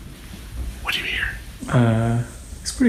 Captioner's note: whispering